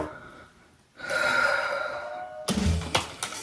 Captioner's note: sigh